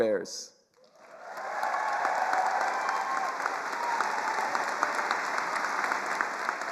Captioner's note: attendees cheering and applauding